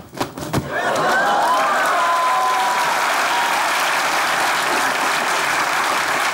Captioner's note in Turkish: Alkış sesleri